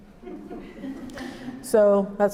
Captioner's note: laughter